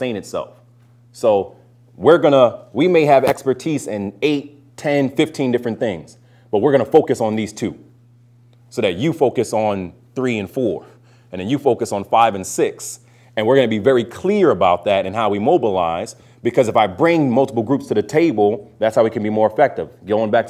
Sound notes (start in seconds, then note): none